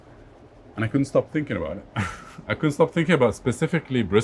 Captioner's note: laughs